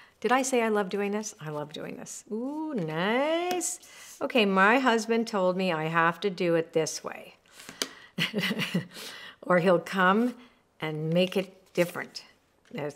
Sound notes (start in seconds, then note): 8.2 chuckling